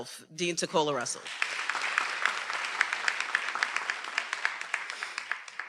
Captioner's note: everyone applauding